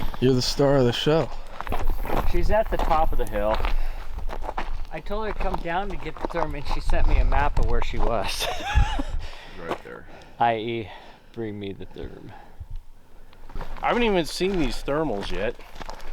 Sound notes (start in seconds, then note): 8.2 laughing